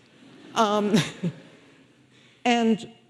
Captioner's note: audience laughing